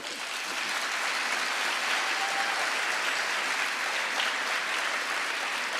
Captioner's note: audience applauding